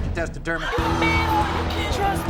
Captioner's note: audience oohs